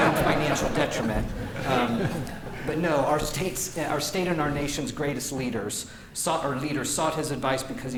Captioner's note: laughter